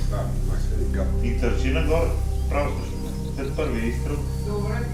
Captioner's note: hunters chattering